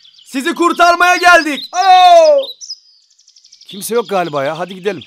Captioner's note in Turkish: çalı sesi